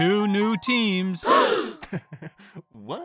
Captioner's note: all gasp